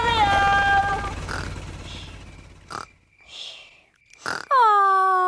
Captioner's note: baby alexander snoring